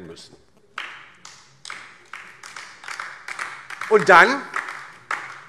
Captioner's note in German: Beifall DIE LINKE